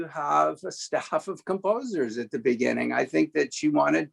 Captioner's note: laughing